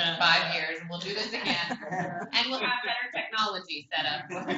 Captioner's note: laughter